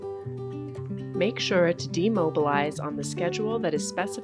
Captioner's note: voiceover